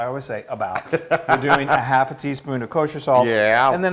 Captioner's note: laugh